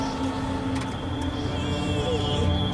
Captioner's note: car clicking